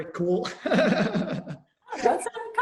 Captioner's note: chuckles